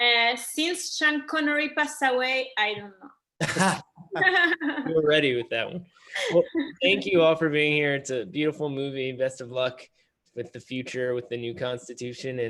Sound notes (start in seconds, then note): 3.4 laughs